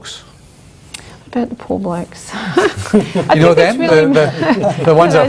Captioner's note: chuckles